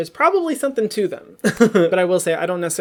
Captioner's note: laughs